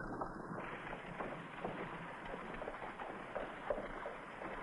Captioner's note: horse trotting